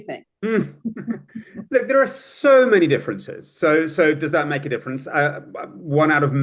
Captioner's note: laughs